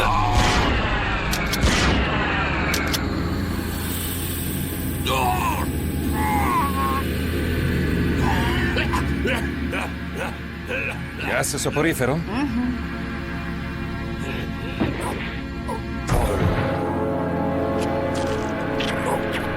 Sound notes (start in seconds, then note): 1.2 gun firing; 3.1 smoke hissing; 3.9 barbaric snarling; 8.1 barbaric coughing